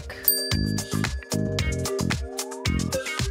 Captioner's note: bell dings